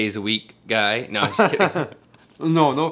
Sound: laughs

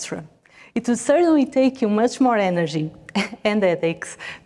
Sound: laughs

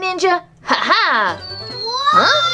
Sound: laughs triumphantly

